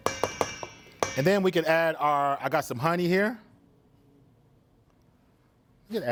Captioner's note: bowl clangs